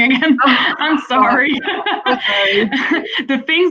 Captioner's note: laughter